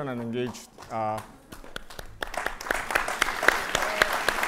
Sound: audience applauding

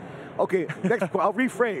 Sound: laughing

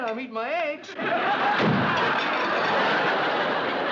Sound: door slams

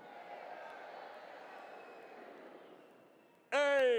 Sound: audience responds

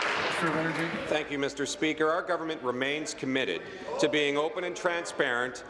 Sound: applause

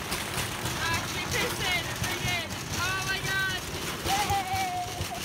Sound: banging continues; girls yelling

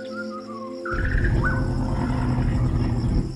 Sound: growling

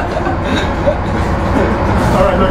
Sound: laughs

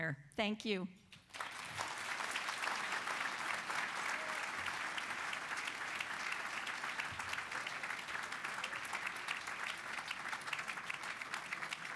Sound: applause

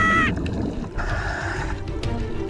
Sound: inhale

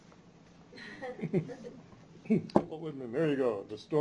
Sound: chuckles

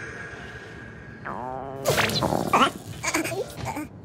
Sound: gurgling stomach noise

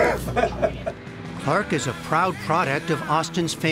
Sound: laughter

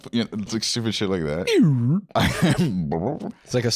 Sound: both making sound effects

